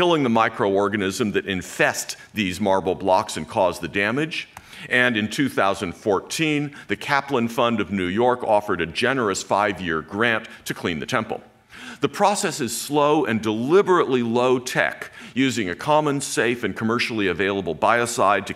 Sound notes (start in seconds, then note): none